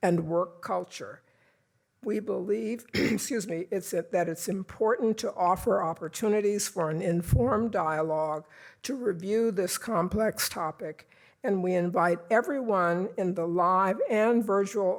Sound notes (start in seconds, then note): 2.9 cough